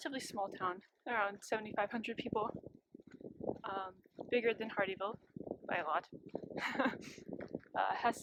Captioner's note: laughs